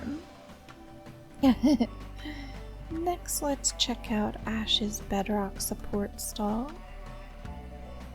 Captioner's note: giggle